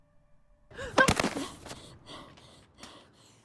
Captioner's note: yelps; thud